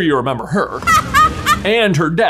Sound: Bellatrix laughing

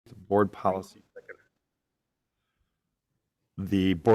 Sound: speaks faintly

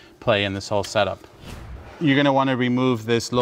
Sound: whooshing sound

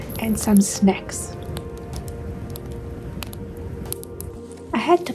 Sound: sound of the fire crackling

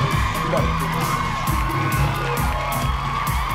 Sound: cheers and applause

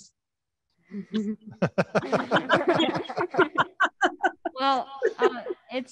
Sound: panelists laughing

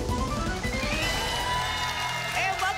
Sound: applause and cheering

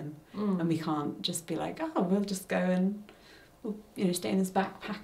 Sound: none

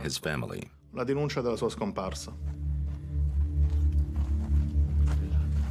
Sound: speaking in Italian

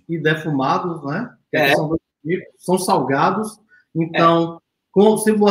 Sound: speaks portuguese

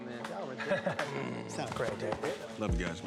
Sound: laughs

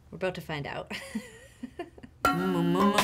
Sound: laughing

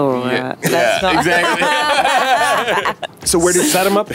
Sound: laughs

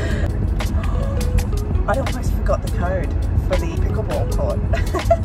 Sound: gasp

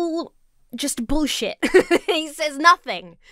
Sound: laughs

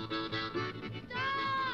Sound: engine rumbles

